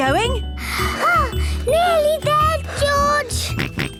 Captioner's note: panting; snorts